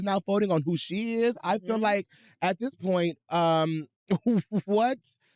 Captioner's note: chuckles